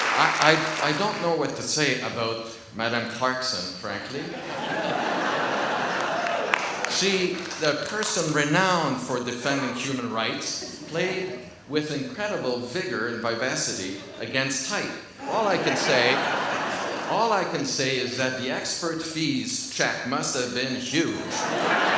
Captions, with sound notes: I don't know what to say about Madame Clarkson frankly. (audience laughs) She, the person renowned for defending human rights played with incredible vigor and vivacity against type, all I can say, (laughs) all I can say is that the expert fees check must have been huge.